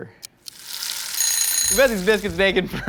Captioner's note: timer dinging